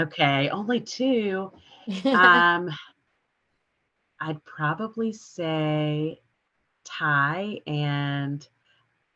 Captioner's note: chuckles